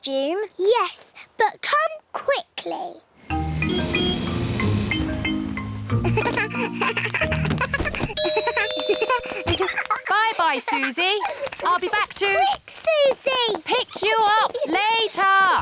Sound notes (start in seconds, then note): 3.3 toots horn; 6.0 giggles; 8.1 rings doorbell; 15.4 both giggle